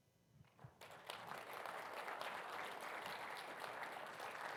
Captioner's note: audience applauds